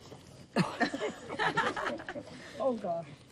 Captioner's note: chuckling